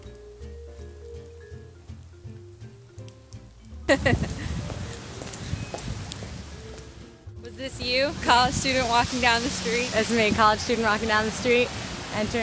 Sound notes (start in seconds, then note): 3.9 laughter